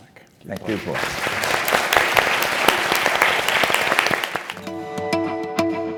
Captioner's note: applause